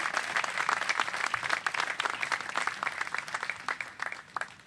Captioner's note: applause